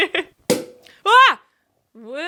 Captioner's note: giggling; bottle pops; shouting